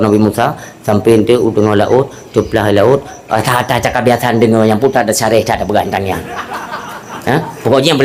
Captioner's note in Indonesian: tertawa